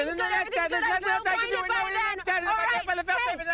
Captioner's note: overlapping shouting